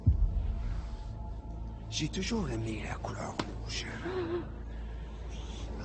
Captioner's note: LaFleur speaking in French